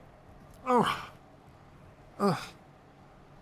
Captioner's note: grunts